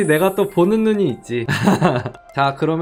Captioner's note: laughing